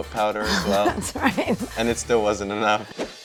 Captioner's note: chuckles